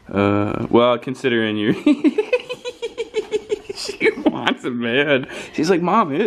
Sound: laughs

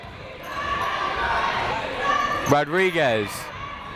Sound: people shouting in the crowd

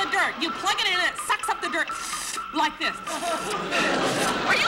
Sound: slurping noise

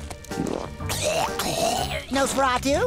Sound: coughing

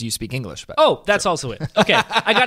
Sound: laughing

